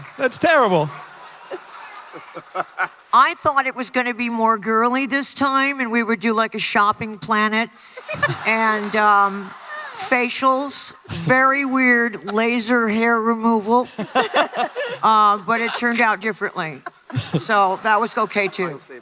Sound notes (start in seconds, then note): 7.8 laughter; 13.8 laughter